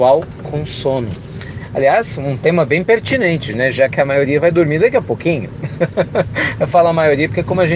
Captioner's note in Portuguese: risos